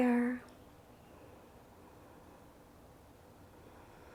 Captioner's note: inhales